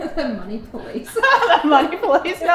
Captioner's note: both laughing